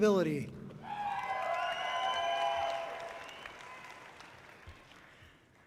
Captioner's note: audience cheering loudly